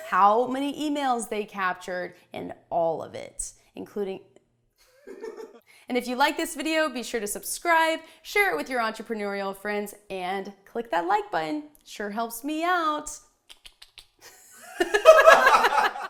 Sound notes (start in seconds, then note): 13.4 clicks tongue; 14.7 laughs